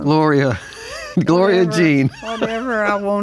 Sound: laughs

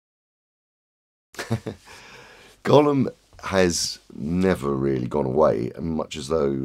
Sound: laughs

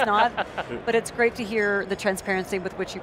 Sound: laughs

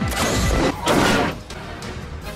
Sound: crash

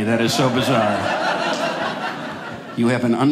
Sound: audience laughing

